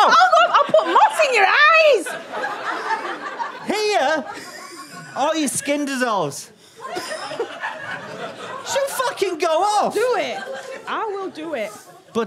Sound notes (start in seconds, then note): 2.1 audience laughter; 6.9 audience laughter, a bit stunned